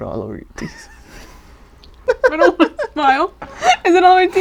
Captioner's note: laughs; giggles